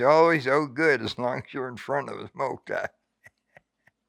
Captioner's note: chuckles